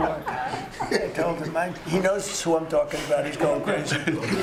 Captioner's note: laughter